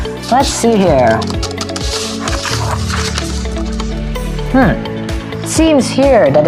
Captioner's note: smart person keyboard clicking